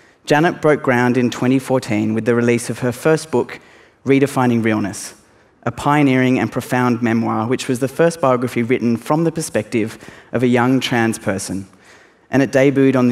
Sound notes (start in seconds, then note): none